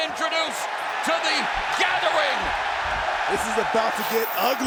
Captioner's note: fans cheering